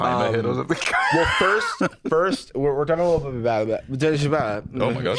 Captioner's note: unintentional, then intentional gibberish